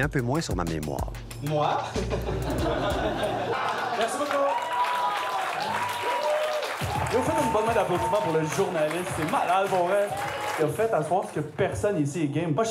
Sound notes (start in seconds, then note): 2.0 small embarrassed laugh; 5.6 applause